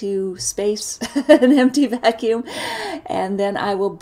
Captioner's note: chuckles